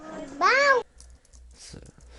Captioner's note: typing